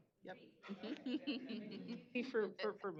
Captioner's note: laughs